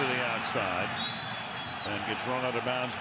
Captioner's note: crowd boos